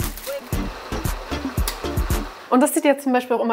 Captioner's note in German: Aufgeweckte Musik; Rauschen